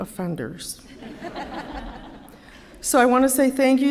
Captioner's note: laughter